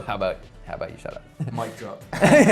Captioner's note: laughs